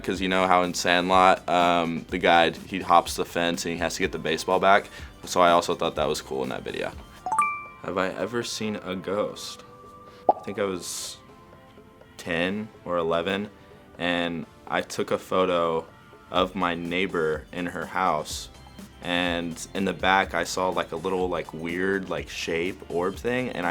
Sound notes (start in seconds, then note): 7.2 ding